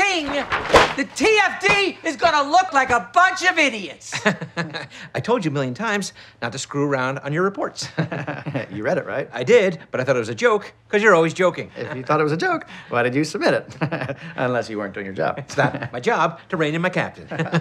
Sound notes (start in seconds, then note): 4.1 laughing; 7.9 laughs; 15.4 chuckling